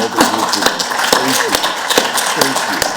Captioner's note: audience applauds